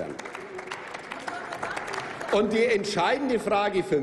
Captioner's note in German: Applaus